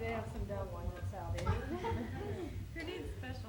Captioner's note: laughter